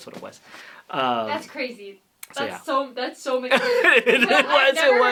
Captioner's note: laughter